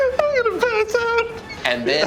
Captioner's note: laughing